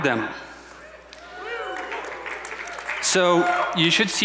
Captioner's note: audience cheering